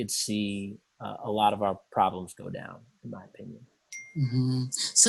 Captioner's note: bell dings